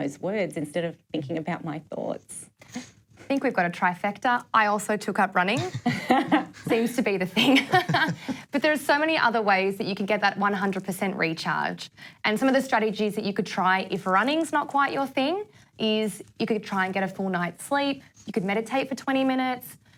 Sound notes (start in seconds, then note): 5.6 laughter